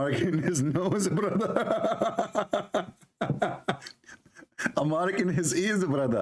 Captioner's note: Ketawa